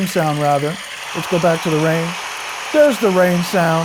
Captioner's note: rain pouring